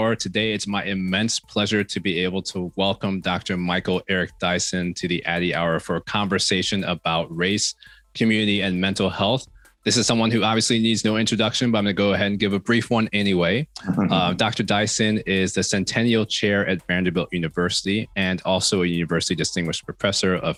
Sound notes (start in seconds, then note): 13.8 Michael laughs